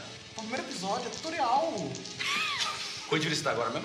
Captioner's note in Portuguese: Risos